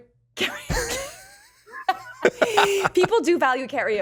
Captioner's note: laughs